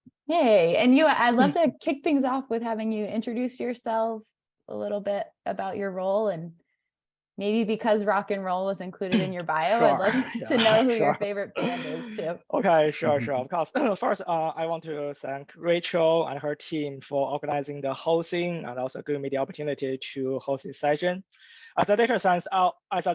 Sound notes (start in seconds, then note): 11.6 laughs